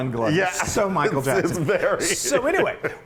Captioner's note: laugh